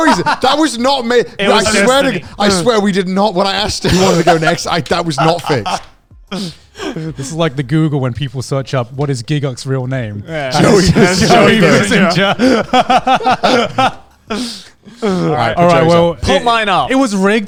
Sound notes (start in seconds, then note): 10.6 all laugh